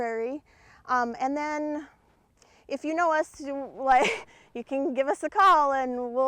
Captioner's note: laughs